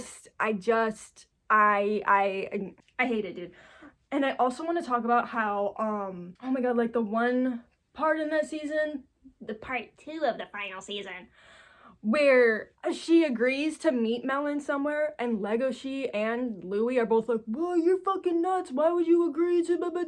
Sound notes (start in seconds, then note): 9.3 gremlin voice